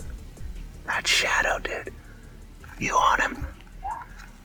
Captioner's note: whispering